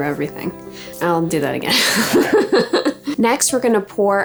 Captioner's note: laughs